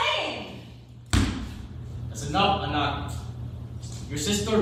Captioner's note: stomps